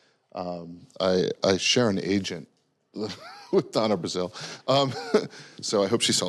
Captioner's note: laughing